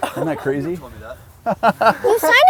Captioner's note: laughs